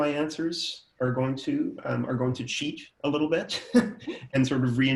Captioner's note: laughs